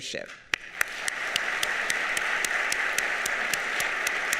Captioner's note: audience applauding